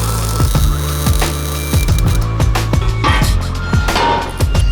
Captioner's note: weld zapping; bright music